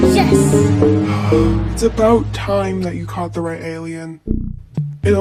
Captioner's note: sighs